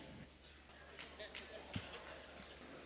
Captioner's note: few Laugh